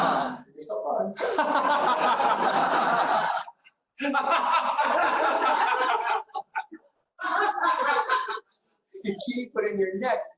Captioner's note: laughter